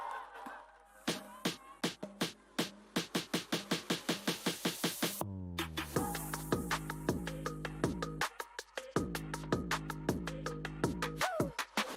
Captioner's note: applause